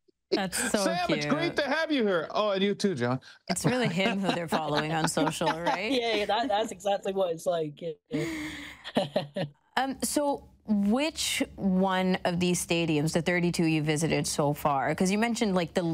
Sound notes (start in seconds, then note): 0.4 laughs; 3.5 laughter; 8.2 laughs